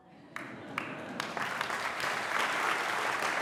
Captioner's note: applause